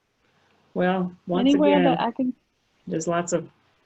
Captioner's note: background speaking